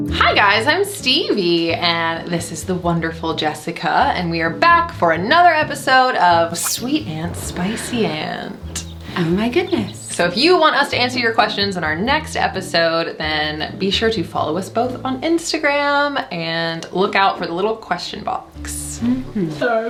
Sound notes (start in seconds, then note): 6.8 thunder rumbles